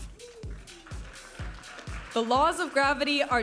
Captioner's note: audience applauding and cheering